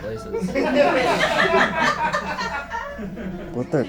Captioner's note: audience laughing